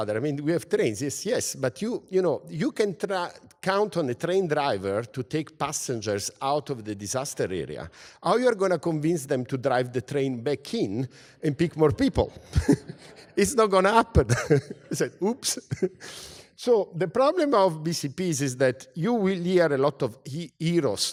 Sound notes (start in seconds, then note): 12.5 laugh